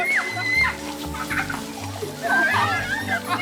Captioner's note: Allison screaming; Richard laughing; everyone laughing